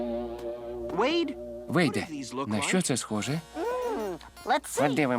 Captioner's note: gasping